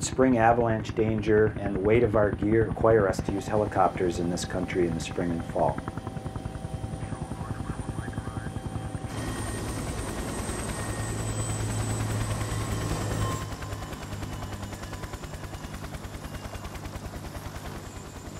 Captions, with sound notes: but spring avalanche danger and the weight of our gear require us to use helicopters in this country in spring and fall (Helicopter rotor sounds)